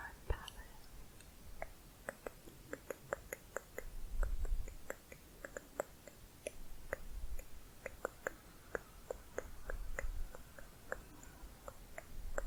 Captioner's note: tongue clicking, getting higher